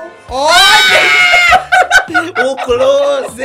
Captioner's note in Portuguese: grita